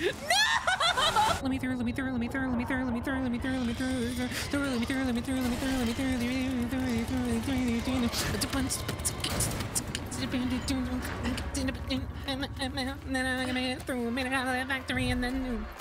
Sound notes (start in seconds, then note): 8.3 beatboxing